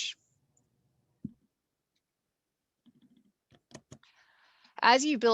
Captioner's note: keyboard clicking